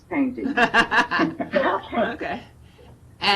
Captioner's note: laughing